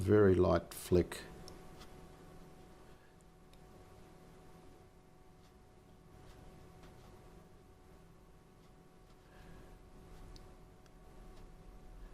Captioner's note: silence